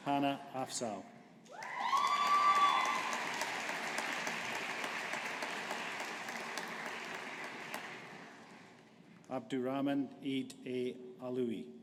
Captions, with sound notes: Hannah Afzal. (AUDIENCE APPLAUDING) Abdurhman Aidh A Alalowi.